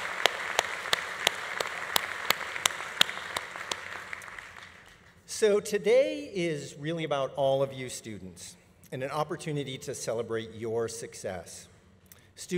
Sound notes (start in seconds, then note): 2.5 audience applause continues